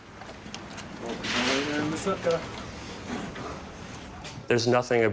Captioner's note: speaking in foreign language